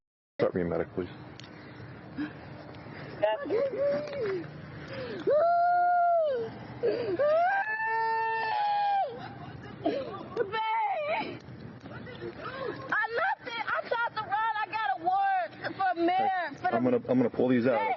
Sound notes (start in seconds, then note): 3.2 radio chatter